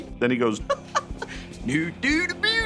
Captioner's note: laughing